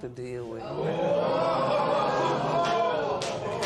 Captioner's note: spectators Ooh